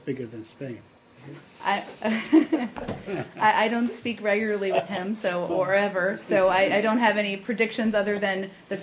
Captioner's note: laughter